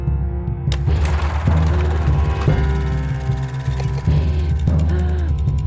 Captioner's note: film reel whirring; counter ticking